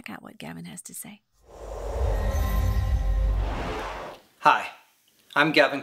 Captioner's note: whooshing